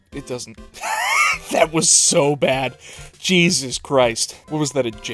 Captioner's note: wheeze